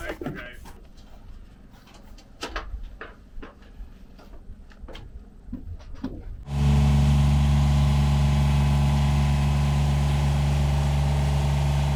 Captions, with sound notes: - Looks nice though guys. (machine whirring)